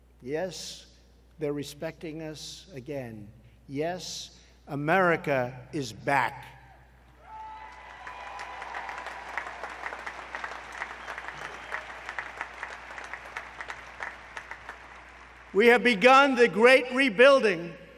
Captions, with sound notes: Yes, they are respecting us again. Yes, America is back. (Applause.) We have begun the great rebuilding